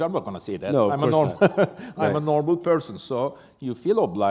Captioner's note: chuckle